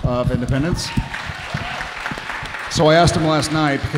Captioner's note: audience cheering